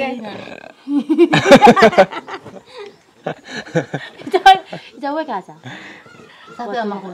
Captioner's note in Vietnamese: Tiếng cười